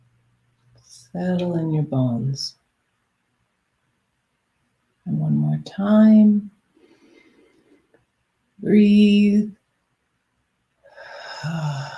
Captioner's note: exhales